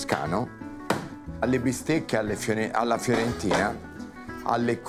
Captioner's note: chopping board banging